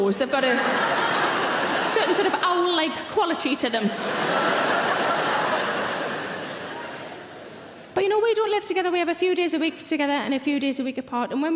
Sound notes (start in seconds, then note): 3.2 audience laughing